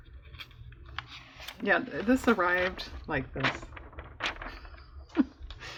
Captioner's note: laughs